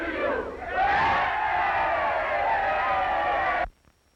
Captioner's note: all cheering